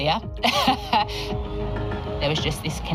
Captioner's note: laughs